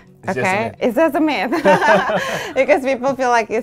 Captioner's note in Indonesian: keduanya tertawa